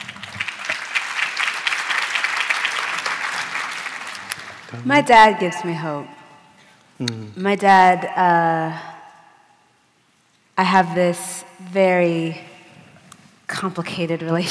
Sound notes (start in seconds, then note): 4.5 applause